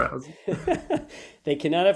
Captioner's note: both laugh